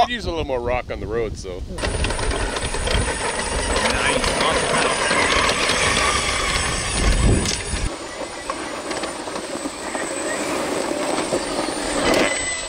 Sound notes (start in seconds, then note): 1.8 truck chugging